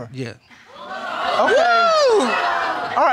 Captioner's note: crowd gasping